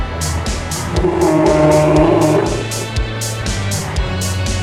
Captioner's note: bear growl